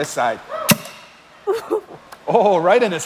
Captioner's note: poof